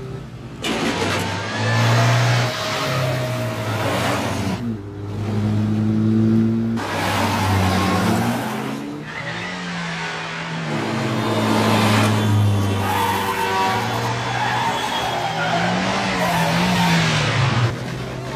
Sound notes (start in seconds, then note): 12.0 horns blaring; 12.0 tires squealing